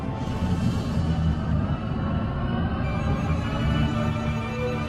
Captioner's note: machines coming to life, whirring